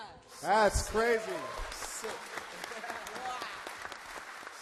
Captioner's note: applause